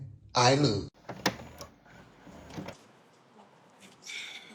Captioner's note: door opens